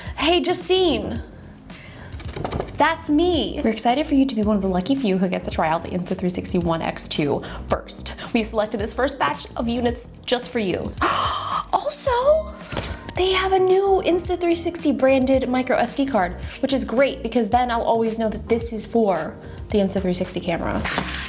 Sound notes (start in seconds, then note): 11.0 gasps